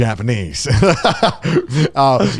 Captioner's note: laughing